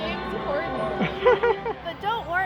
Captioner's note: laughs